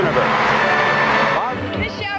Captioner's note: crowd cheering